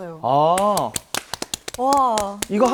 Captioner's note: applause